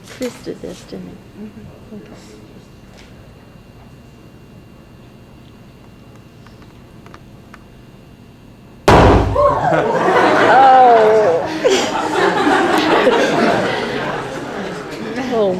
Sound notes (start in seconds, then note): 8.8 hydrogen balloon explodes with an audible bang; 12.0 audience laughs and cheers